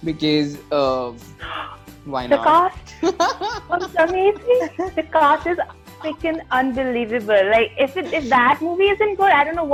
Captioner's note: gasps